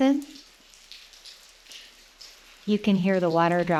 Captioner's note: water drops tapping